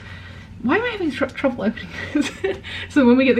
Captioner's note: chuckles